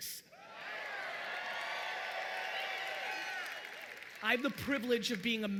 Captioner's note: audience cheering loudly